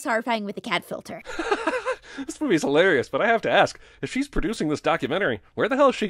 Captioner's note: laughs